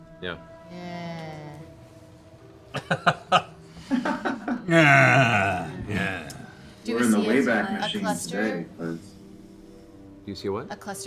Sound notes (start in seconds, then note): 2.7 laughs; 3.2 imitates Laura